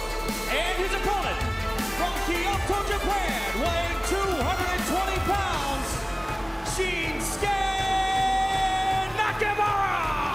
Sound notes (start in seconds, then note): 6.0 crowd cheering